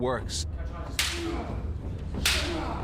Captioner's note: grunting